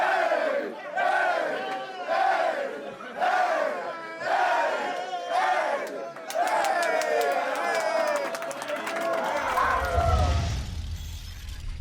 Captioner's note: cheering